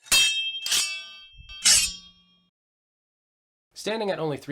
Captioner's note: blades clanging